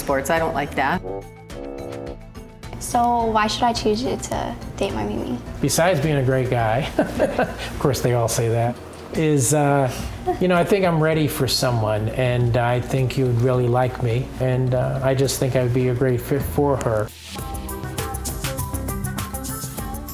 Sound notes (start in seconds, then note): 6.9 laughs